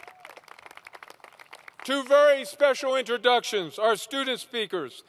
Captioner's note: applause